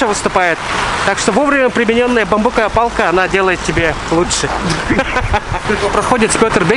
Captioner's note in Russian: смех